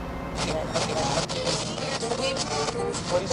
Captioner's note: radio interference